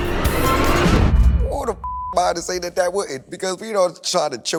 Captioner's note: beep